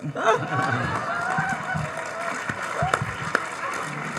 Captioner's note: audience applauding